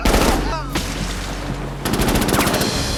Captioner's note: groans